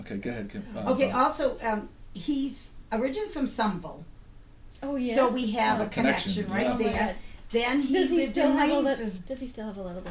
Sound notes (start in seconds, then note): 1.3 voiceover; 7.2 voiceover